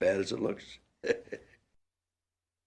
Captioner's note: laugh